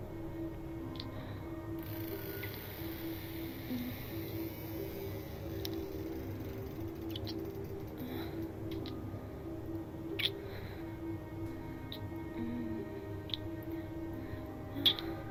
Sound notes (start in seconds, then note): 2.5 moaning; 11.7 kissing and moaning continues